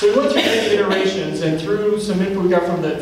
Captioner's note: coughing drowns out speech